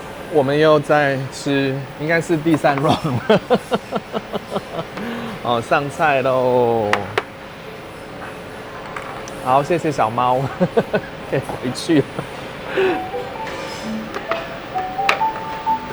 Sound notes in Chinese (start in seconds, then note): 2.8 笑聲